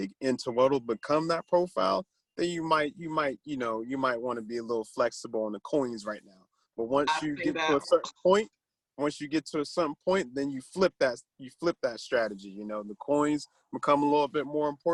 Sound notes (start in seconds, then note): 7.6 speaks faintly